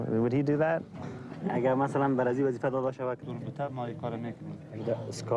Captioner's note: men speaking in foreign language